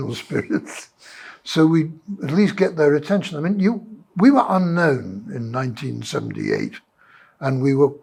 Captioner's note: laughs